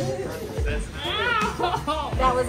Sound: laughs

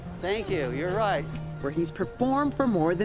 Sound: voiceover

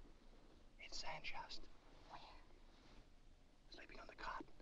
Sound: whispers

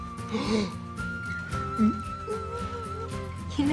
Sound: gasps

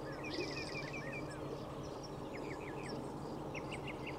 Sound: birds chirp

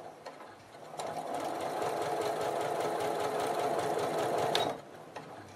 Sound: sewing machine stitching

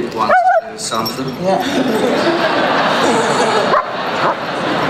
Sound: laughter

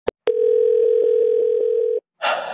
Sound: phone ringing

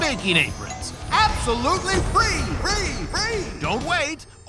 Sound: echoing

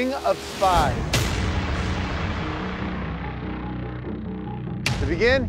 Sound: cinematic hitting

